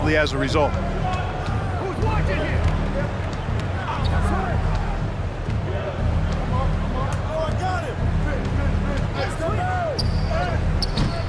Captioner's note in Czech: Potlesk